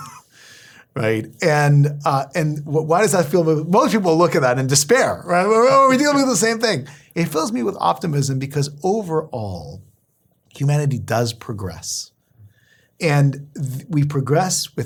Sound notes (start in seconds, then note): 0.8 laugh